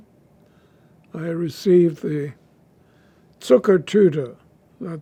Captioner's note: german